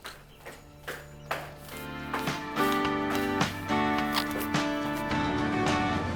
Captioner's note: foot steps